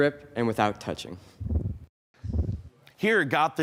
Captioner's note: whoosh